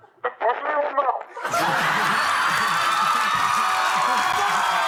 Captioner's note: audience cheering